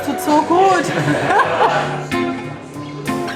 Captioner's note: laughter